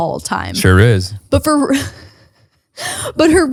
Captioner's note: laughs